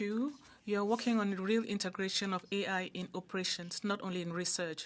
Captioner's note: speaking French